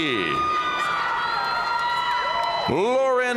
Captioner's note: audience cheering and applauding